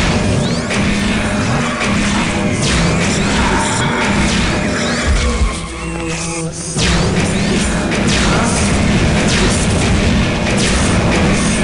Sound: gunfire; monster screams, gunfire; more gunfire

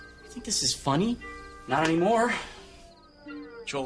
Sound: sighs

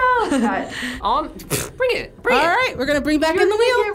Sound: chuckles; scoffs

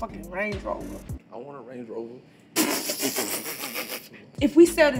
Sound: laughs

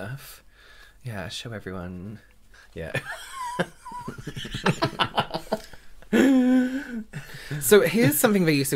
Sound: laughter

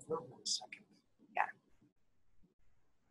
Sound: voiceover; voiceover

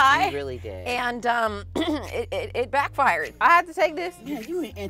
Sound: coughs

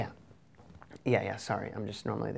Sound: swallows

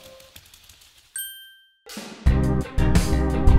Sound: ding; groovy music

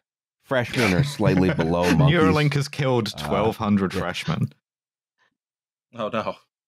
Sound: laughs

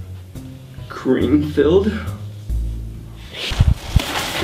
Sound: gasps

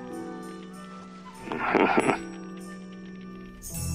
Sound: chuckles

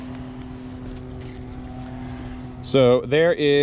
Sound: keys jangling

